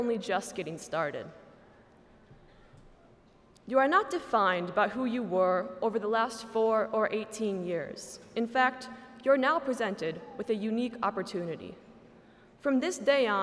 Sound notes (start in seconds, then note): none